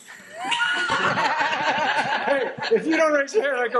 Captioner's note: everyone laughing